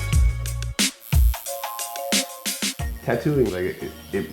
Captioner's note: mellow funk music; needle buzzing